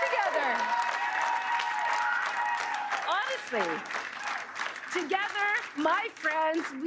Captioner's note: cheers and Applause